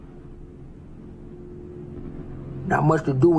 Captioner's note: helicopter